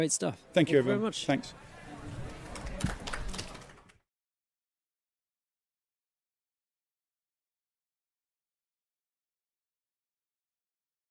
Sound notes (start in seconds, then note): 2.2 applause